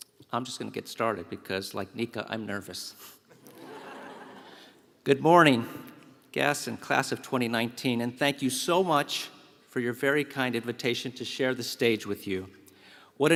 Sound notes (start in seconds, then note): 3.2 laugh